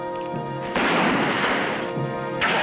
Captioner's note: gunshot